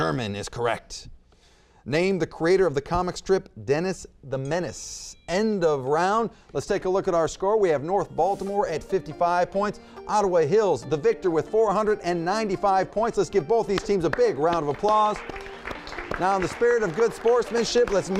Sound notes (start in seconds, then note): 5.0 timer dings; 15.2 applause